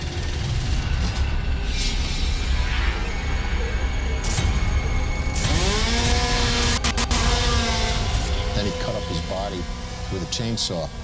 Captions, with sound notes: [chainsaw buzzing] - Then he cut up his body with a chainsaw.